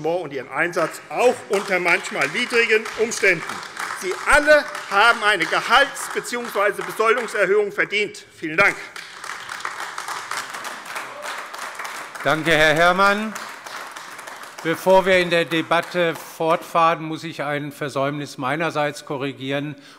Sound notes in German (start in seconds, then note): 3.5 Beifall AfD; 8.6 Beifall AfD